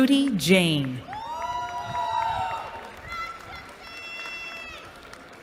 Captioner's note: cheering